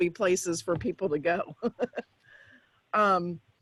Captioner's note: laughs